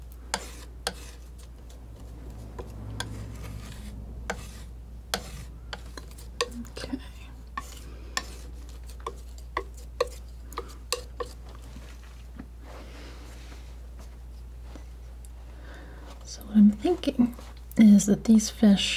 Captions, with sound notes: Okay. [tapping] So, what I'm thinking is that these fish...